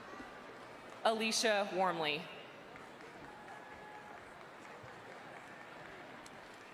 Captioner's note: people chattering